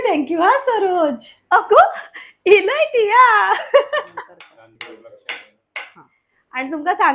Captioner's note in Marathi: हास्य